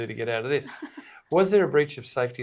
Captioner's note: giggles